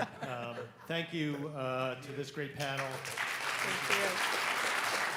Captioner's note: all laugh; audience applauds